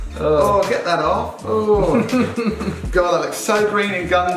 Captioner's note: laughs